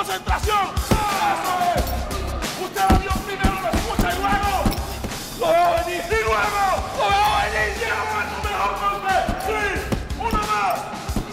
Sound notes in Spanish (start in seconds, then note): 1.0 Gritos